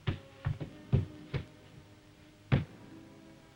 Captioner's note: pounding wall